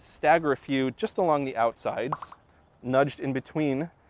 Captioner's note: pop, pop, pop